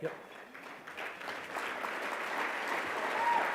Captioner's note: applause